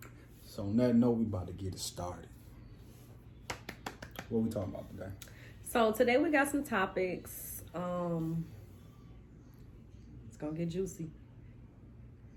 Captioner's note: claps